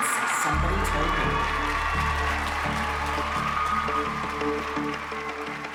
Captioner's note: cheering